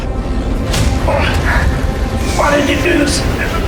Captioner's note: Hawk groans